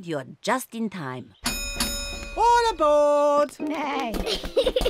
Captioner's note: dings bell